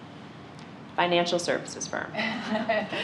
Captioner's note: laughter